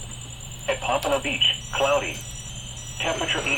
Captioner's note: device beeping